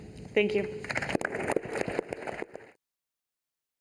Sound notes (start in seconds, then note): 0.9 applause